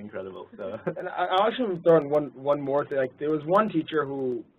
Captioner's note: laugh